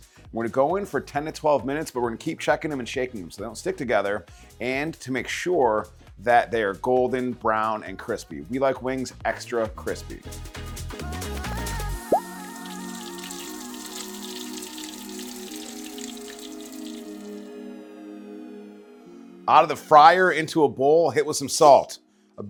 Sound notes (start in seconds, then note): 9.8 upbeat music continues; 12.0 oil sizzles